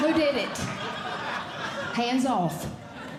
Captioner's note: audience Laughing